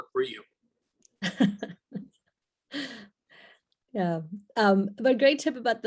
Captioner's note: laughs